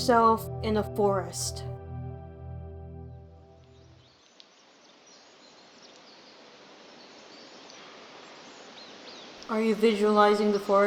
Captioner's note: sounds of the forest